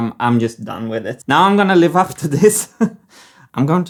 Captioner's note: chuckles